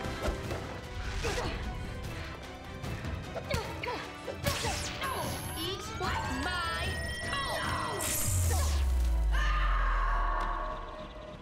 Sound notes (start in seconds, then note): 8.1 powering down; 9.3 screams